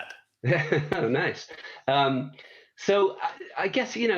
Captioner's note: laughs